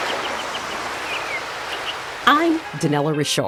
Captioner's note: rushing water sounds